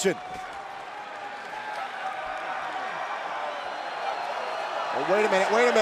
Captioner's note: crowd cheering